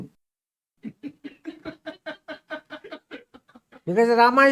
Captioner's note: laughs